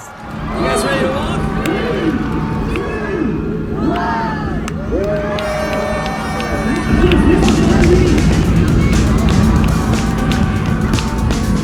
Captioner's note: cheers